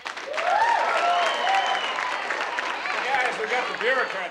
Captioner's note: audience applauding